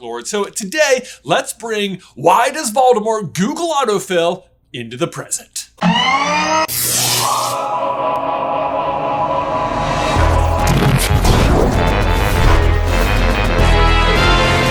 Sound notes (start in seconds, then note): 5.8 machinery noise; 5.8 sizzling electricity noises; 9.8 current Intro Theme Music